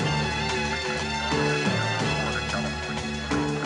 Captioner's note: dispatch radio chattering